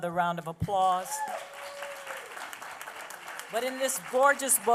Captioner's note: applause